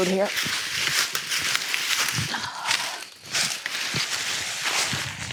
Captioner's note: leaves crunching